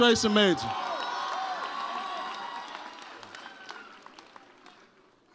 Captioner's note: audience cheers